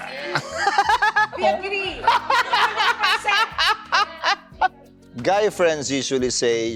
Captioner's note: laughs